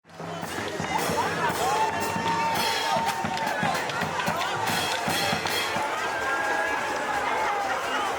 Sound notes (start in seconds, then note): 0.3 chanting; 2.0 cheering